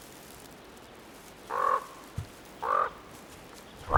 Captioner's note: bird cawing; moose grunts